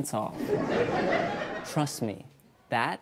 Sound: audience laughs

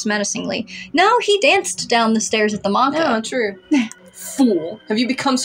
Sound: chuckle

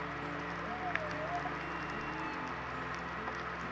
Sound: whale calls

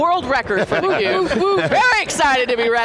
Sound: cheering

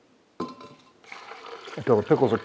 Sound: water running

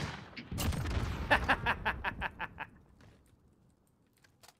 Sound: laughing

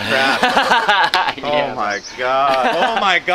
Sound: laughs

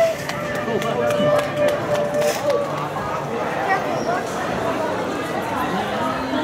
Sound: general crowd sounds, no dialogue

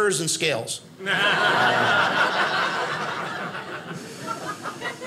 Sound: audience laughing

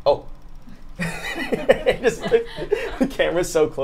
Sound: all laugh

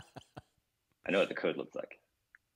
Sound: laughs

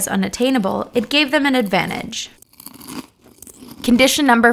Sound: munching

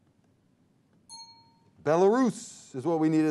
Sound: timer dings

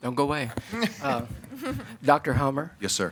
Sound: board members chuckle

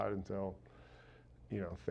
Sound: exhale

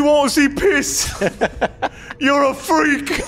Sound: chuckles

